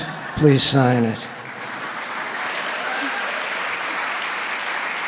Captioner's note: audience applauding